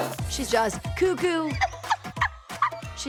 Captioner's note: laughing